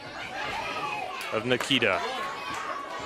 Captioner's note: crowd chatter